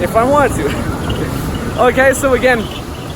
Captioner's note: laughs